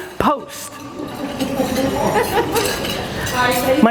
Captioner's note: audience laughs